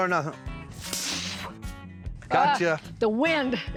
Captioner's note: spitting